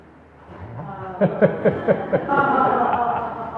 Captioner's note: laughs